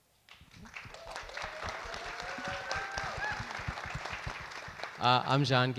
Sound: audience applauds and cheers

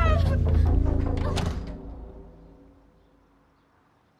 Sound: door thuds

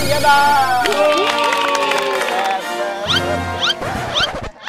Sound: cheering; applauding

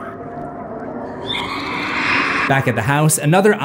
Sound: screaming

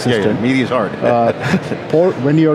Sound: laughs

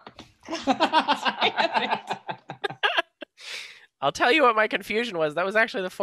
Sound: laughter

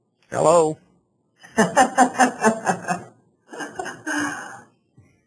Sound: laughs

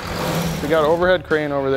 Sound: engine revs

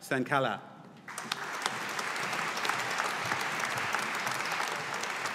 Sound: audience applauding

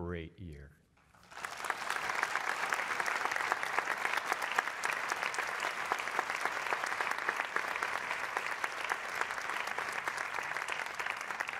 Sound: applause

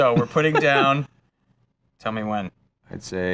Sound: laughing

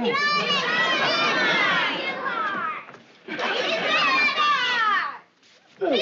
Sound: children all shouting answers

